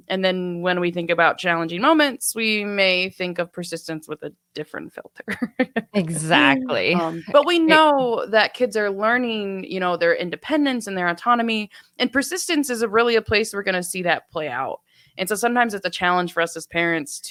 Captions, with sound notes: And then when we think about challenging moments, we may think of persistence with a different filter. (laughs) - Exactly. - But we know that kids are learning, you know, their independence and their autonomy, and persistence is really a place that we're going to see that play out. And so sometimes it's a challenge for us as parents